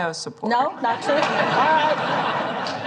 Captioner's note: laughter